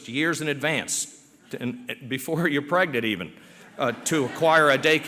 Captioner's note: laughter